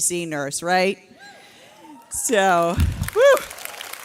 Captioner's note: audience cheering